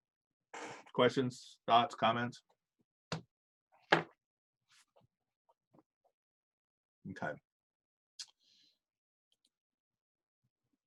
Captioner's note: silence